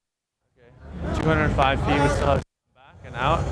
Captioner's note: crackles